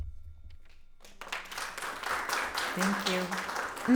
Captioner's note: attendees applauding